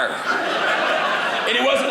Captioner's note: audience laughing